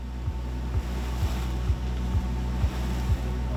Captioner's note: sound of swells; rhythmic music